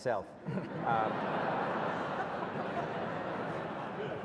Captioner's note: audience laughs